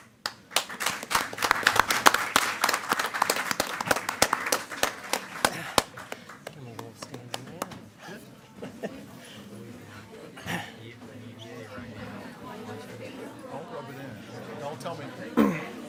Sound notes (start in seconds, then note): 0.0 attendees clapping; 7.0 attendees chattering